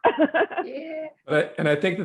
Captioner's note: laughs